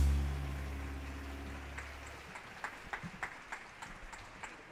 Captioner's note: audience applauding